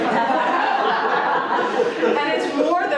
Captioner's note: laughter